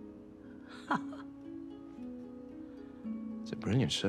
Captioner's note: chuckles